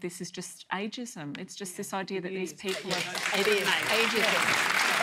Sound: applause

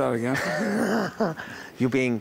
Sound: chuckles

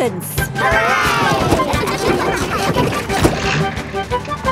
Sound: giggling

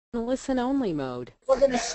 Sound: robotic Voice

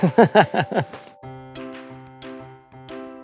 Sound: laughing

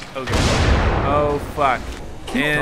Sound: explosion

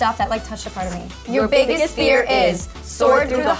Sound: in Unison

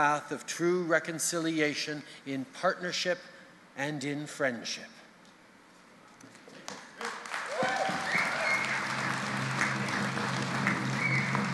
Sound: applause and drumbeats

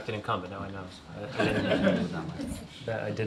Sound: laughter

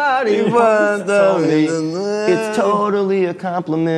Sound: both humming

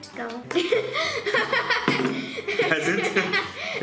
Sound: laughs

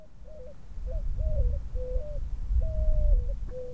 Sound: bird chirping

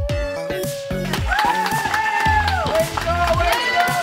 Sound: people cheer and claps; upbeat music

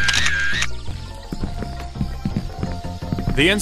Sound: camera shutter closing; footsteps on wood

